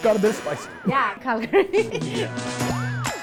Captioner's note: laughter